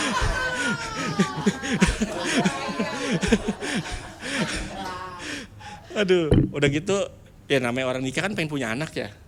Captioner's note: laughs